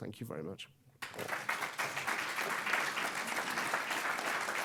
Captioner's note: audience applauds